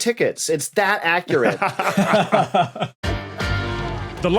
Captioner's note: laugh